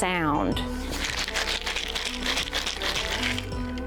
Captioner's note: seeds rattle